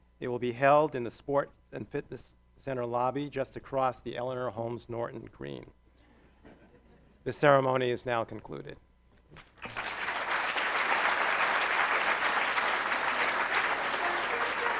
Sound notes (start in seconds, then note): 9.4 audience applauds